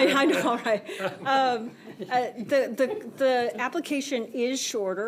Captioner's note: laughter